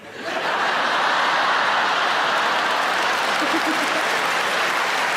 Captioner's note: audience applauding